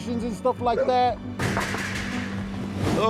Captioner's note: door knocking